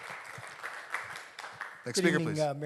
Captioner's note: audience Applauding